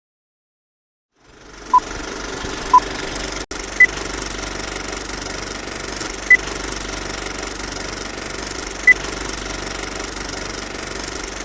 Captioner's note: sound of film leader